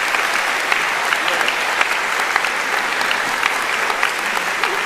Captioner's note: applauding; cheering